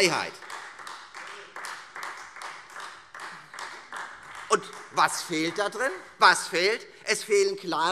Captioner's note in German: Beifall Freie Demokraten